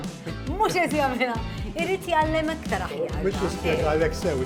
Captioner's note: jokingly